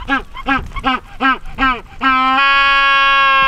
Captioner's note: penguin calls